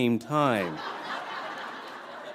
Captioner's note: laughter